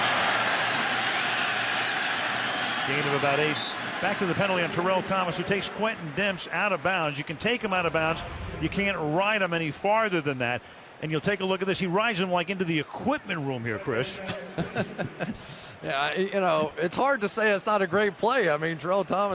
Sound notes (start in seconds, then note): 14.2 laughter